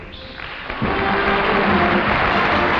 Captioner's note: audience applauding